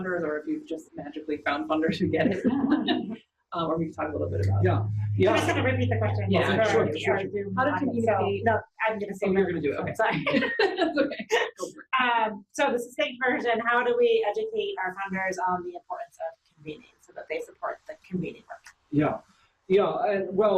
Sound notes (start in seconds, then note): 2.3 audience members laugh; 10.1 laughs